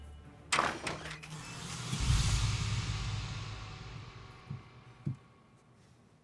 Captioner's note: door clicking; dramatic orchestral music